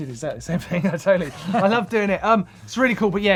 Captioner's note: laughing